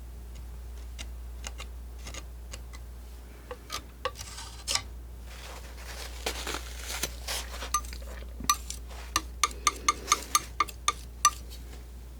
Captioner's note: scratching